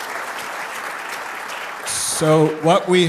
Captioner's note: applause